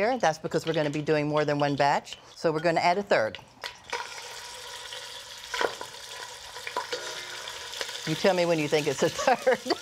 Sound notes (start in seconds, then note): 3.8 pork sizzling; 9.1 laughs